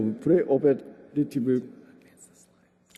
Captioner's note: whispering